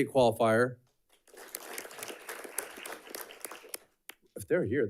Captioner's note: audience clapping